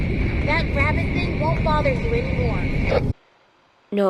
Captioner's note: M2, using Gregory's voice